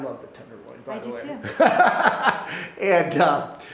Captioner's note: laughing